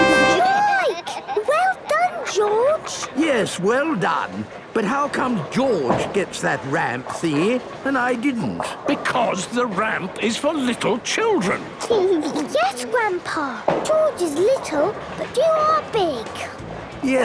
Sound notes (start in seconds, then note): 11.9 giggles